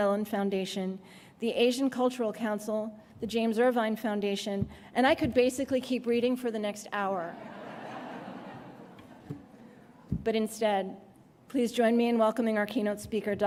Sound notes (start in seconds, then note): 7.3 laughter